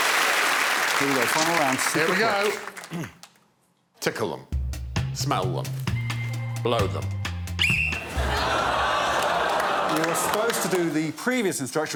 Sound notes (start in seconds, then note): 7.5 blows whistle